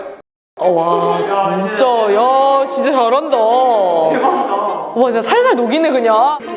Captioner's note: students murmuring at an unexpectedly amazing lecture